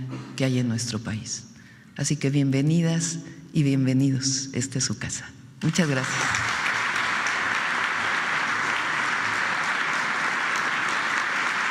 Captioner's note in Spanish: aplausos